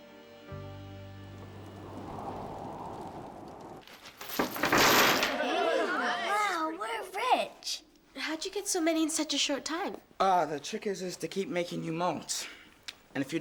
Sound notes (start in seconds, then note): 5.4 everyone cheering